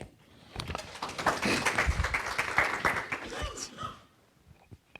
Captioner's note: applause